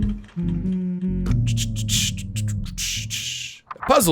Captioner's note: humming